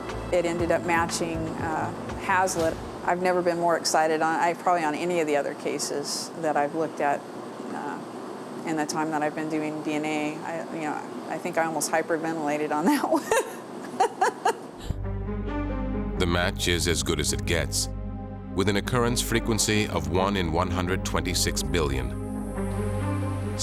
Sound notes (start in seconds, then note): 13.8 laughs